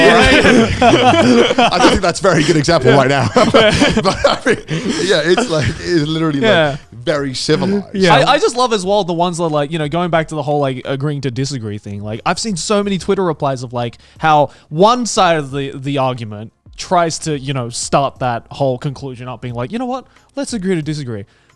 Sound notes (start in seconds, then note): 0.0 all laughing; 3.5 laughing